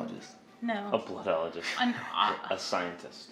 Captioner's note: laughs